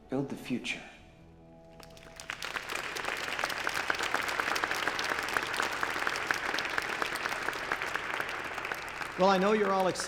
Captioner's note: applause